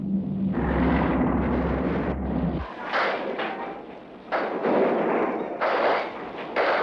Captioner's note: explosions